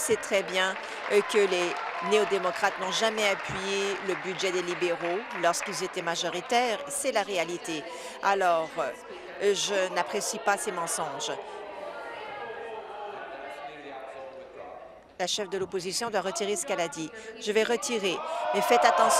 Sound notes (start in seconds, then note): 6.2 applause